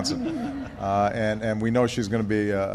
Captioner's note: laughter